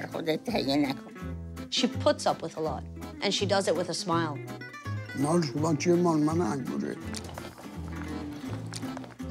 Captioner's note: speaking foreign language